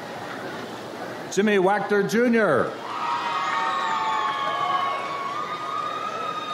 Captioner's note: audience applauds